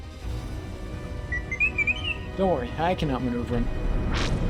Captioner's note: R7 beeping